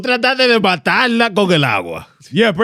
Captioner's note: speaking In Foreign Language